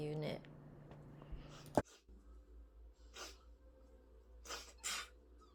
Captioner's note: sniff, Sniff